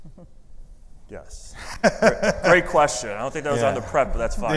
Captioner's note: laughing